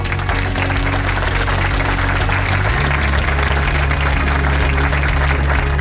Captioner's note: enthusiastic clapping